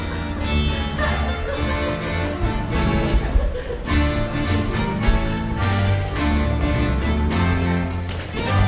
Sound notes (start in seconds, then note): 0.8 laughter